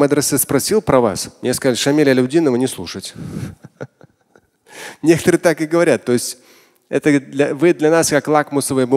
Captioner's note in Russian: Смеется